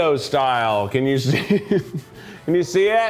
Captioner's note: chuckles